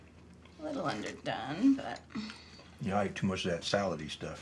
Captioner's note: sighs